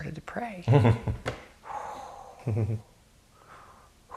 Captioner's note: exhales